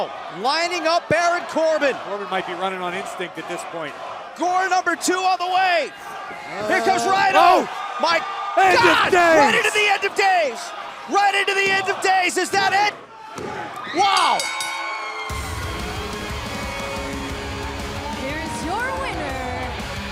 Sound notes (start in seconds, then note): 14.1 bell; 16.8 cheers & applause